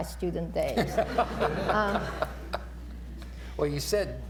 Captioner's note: laughter